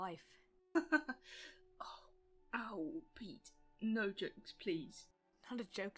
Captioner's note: James laughs